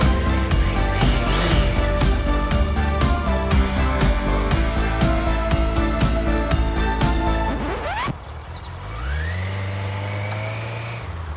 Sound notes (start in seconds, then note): 7.4 record scratch